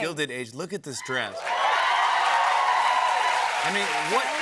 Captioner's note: cheers and applause